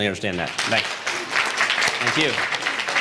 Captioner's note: applause